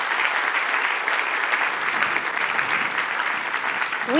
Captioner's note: applause